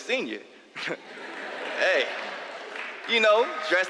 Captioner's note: laugh; applause